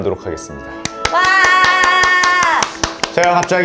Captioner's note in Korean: 환호성